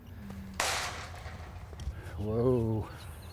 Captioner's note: gate rattles